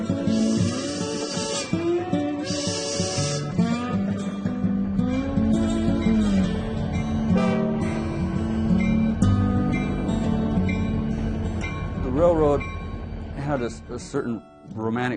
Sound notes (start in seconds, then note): 0.2 steam train whistle blows; 7.3 diesel train horn blares